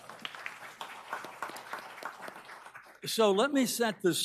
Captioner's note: audience applauding